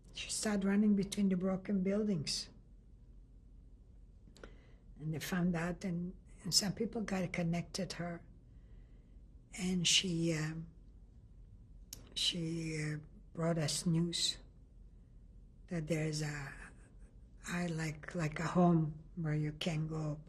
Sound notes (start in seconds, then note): 2.2 pauses for 3 seconds